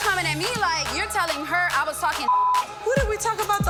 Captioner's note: beep